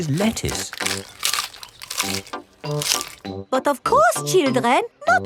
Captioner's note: munching